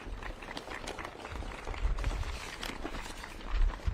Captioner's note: audience claps